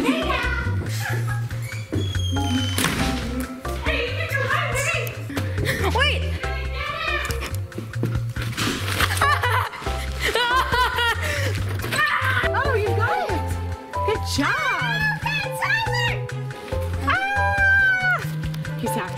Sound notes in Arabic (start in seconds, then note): 9.3 صراخ; 16.6 الموسيقى متفائلا; 17.1 صراخ